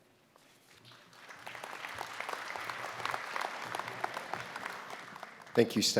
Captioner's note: applause